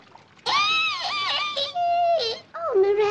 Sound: squeals

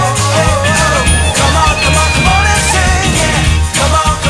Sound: students shouting

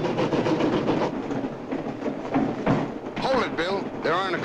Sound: footsteps overhead

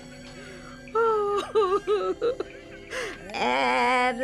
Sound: Mrs. Webb laughs

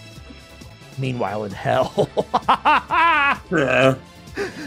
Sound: laughs

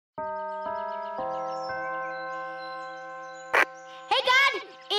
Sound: bell chime

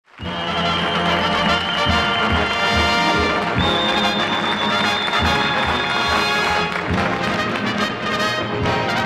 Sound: audience applauding

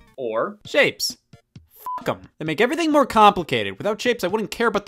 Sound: beep

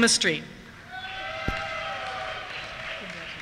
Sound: cheers

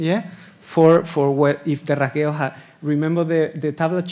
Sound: speaking Spanish

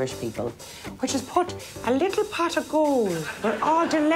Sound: audience laughs

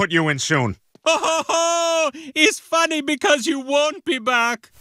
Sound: laughs

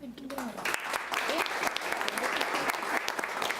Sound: applauding

